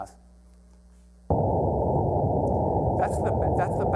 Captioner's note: loud rumbling